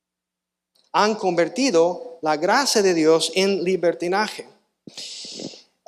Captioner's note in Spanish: resoplido